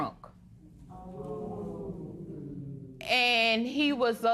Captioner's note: spectators "ooh"